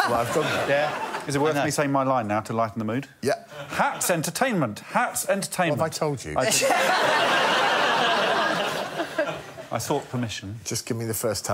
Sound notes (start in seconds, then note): 6.4 laughter